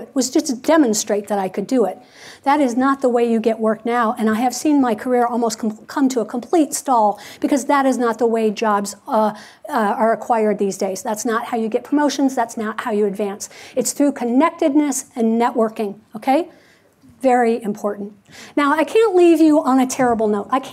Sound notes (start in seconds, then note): none